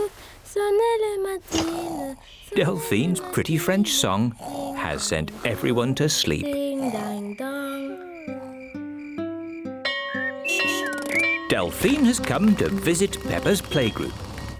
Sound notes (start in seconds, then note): 9.8 bell rings